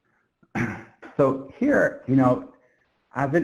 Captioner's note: clears throat